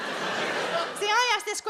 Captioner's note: audience laughs